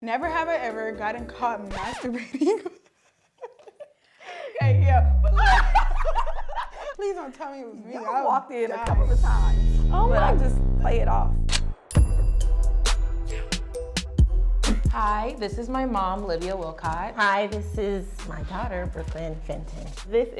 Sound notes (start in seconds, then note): 6.1 laughing; 11.3 chill trap beat